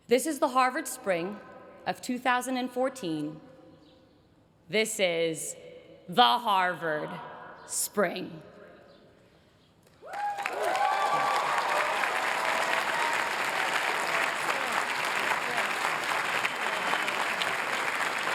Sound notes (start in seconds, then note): 9.8 applause